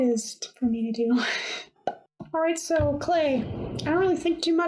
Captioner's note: pop!